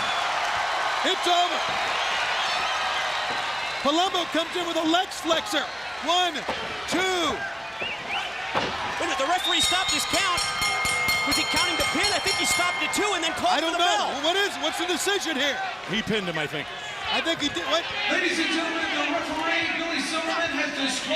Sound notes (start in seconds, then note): 0.0 crowd cheering; 4.7 crowd cheering; 12.3 bell ringing